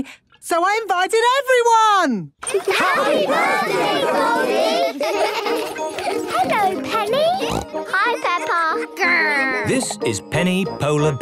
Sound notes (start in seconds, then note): 4.8 laughter; 7.3 snorting